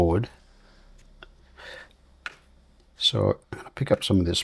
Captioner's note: silence